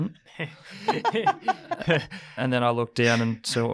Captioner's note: group laughs